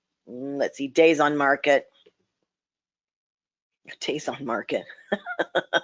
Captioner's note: laughs